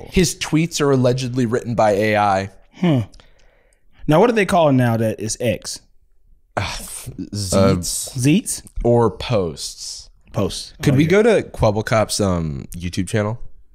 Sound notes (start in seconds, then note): 7.5 sighs